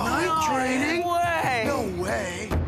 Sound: campers Exclaiming

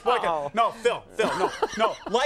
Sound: Conan laughing

